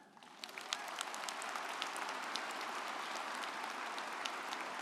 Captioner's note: audience applauding